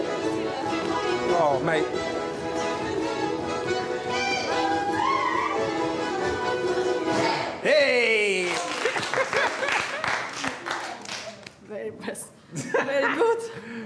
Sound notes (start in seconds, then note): 4.1 people whooping; 8.0 people applauding; 8.8 Reggie laughing